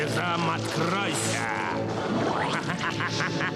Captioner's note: evil laughter